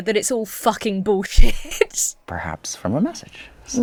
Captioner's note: laughs